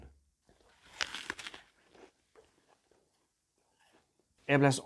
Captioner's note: crunches apple